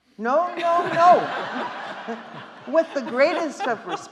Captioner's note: audience laughing